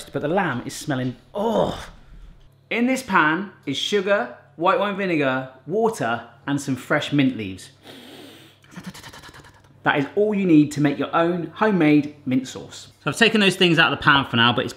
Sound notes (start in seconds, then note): 7.9 sniffing sound